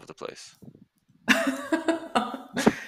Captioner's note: laughter